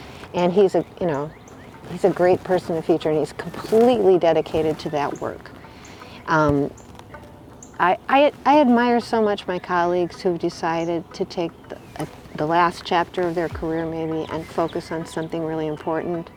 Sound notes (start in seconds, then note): none